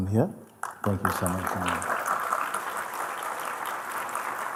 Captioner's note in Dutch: applaus